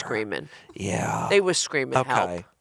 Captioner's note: chuckling